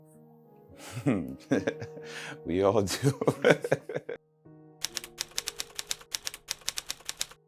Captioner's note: chuckle